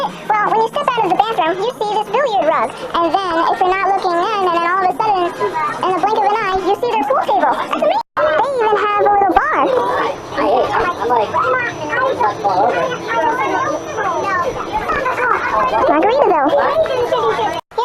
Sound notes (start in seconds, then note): 10.5 people talking; 12.3 more talking